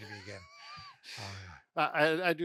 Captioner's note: chuckling